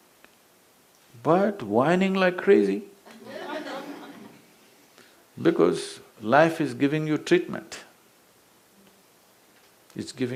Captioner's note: laughter; 笑聲